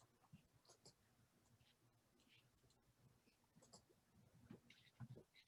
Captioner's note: computer mouse clicking